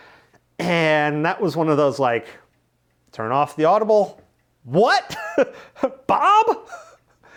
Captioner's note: laughs